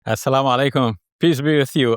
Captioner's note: speaker speaks in foreign language